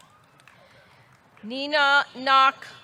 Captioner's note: audience clapping